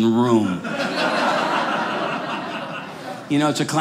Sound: audience laughing

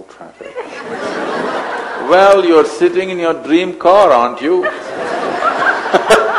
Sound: laughter; laughter

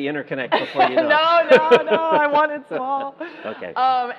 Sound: laughing

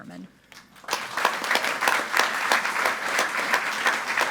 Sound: group applauding

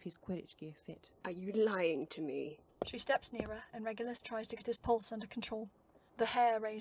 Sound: footsteps

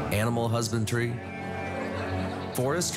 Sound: sheeps bleating

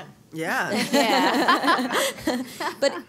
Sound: laughter

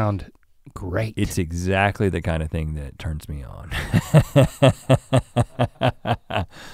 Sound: laughs

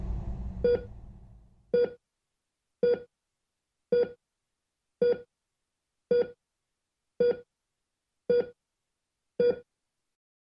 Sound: beeping of monitor

